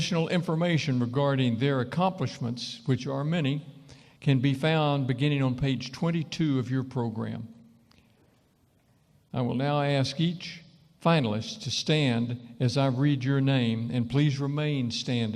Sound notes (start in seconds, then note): none